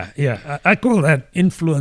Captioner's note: uh